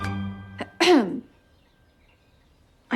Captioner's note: clears throat